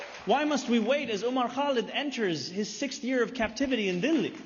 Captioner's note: applause